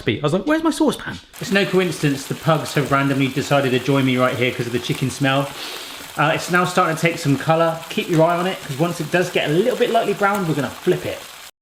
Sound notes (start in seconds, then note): 5.6 sniffs; 11.4 pan sizzles